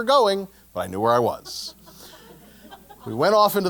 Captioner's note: laugh